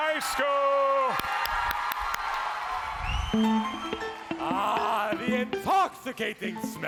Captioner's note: applause